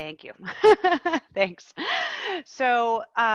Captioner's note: laughing